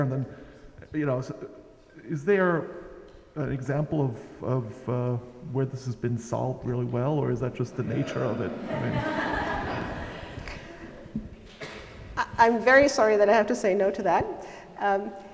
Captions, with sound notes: and then is there an example of where this has been solved really well or is that just the nature of it? (audience laughs) - I'm very sorry that I have to say no to that.